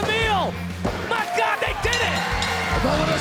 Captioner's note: bell dings